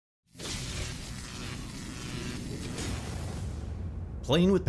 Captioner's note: electricity crackling